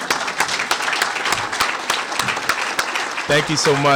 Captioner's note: applause